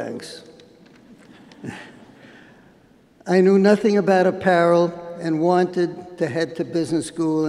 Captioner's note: laughter